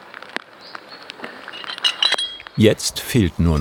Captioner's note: clinking